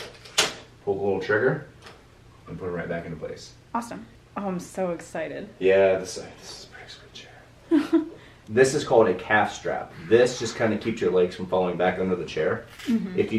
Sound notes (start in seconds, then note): 7.7 laughs